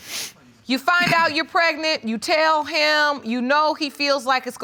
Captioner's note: sniffs